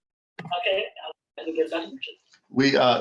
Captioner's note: attendee's speaker echoing